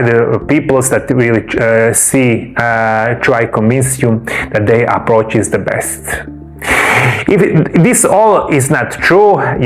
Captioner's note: snorts and sighs